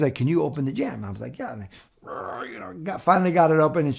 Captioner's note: grunts